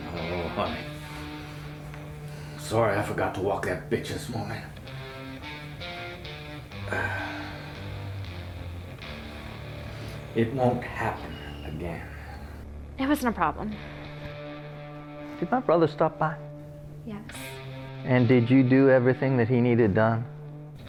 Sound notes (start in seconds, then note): 5.0 sigh